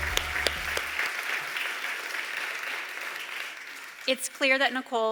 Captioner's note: applause